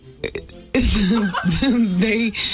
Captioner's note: laughter